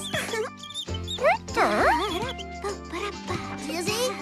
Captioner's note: humming